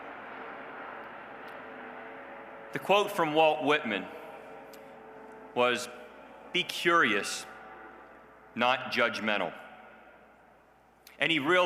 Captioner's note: plane flying overhead